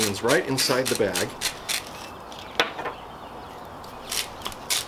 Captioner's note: salt grinder grinding